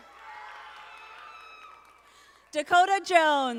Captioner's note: audience applauding